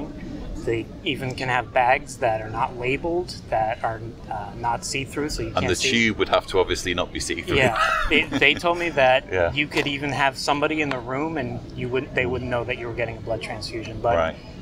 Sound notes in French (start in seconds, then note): 7.4 rire